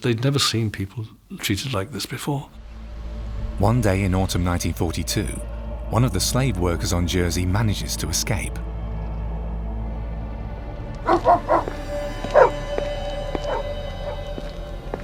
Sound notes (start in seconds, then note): 9.0 intense music; 11.0 dog barking